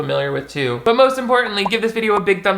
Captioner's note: bubbles pop